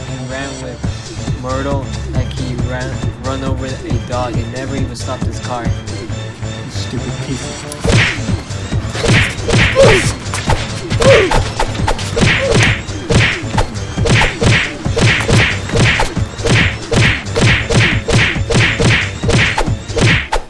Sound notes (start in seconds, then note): 7.8 continuous punching and swinging; 10.9 overlapping oof's